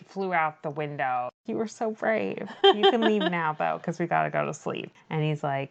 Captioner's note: laughs